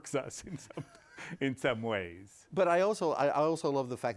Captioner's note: both laughing